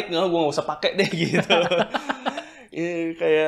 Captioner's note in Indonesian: tertawa